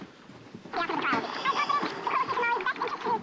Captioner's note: fast-forwarding